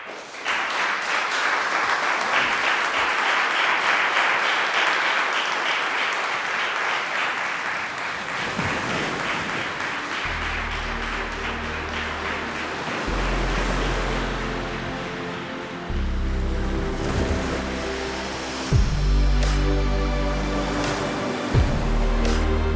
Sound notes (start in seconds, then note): 0.1 audience applauding; 8.6 waves crashing; 10.9 gently soaring music; 18.5 gently soaring music continuing